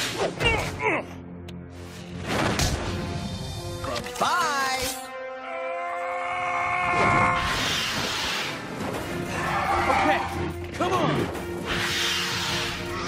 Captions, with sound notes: What? (Grunting) Bye-bye. (Screaming) Okay. Come on.